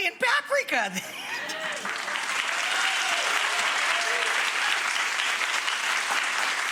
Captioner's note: audience cheers and applauds